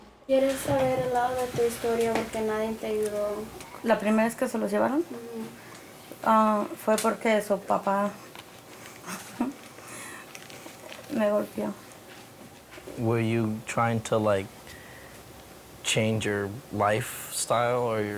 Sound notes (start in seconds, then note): 0.3 speaks in foreign language